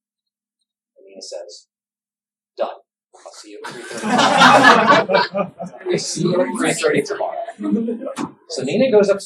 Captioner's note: laughter